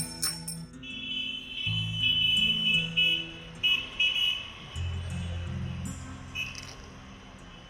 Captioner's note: gentle music; horns beeping